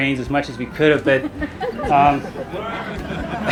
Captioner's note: audience laughing